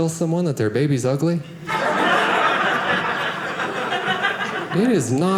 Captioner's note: audience laughing